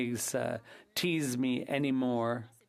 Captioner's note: speaking French